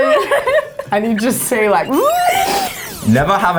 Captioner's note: humming; laughing; humming